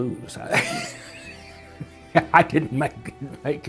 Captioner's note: group laughing